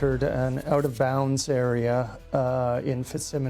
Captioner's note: voiceover